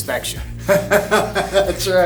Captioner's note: laughs